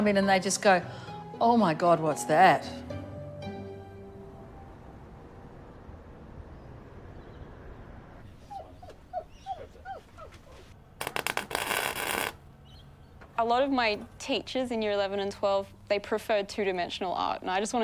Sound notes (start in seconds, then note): 8.2 dog whining; 11.0 welder buzzing